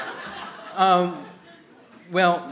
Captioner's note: laughter